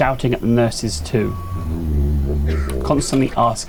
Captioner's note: shouting